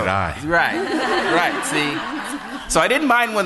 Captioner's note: laughter